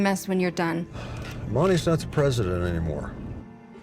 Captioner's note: sighs